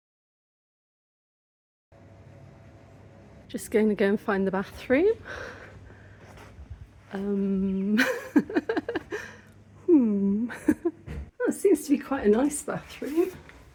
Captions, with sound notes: Just going to go and find the bathroom. Umm... [chuckle] Hmm. [chuckle] Oh, it seems to be quite a nice bathroom.